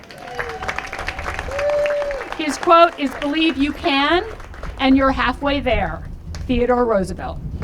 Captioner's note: applause